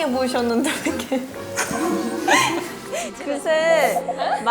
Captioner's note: haha